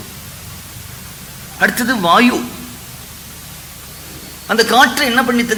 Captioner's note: wind